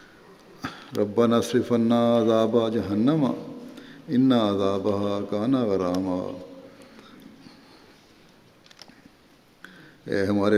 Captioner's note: Arabic